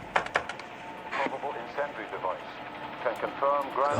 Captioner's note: man over speaker